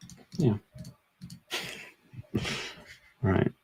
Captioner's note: laughs